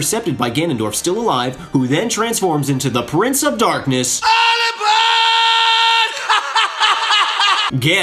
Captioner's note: scream